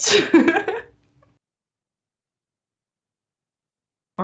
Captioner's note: laughs